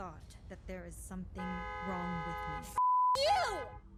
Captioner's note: horn honking